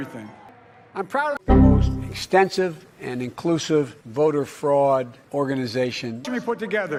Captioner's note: error sound effect